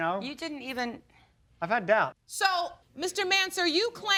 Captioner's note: none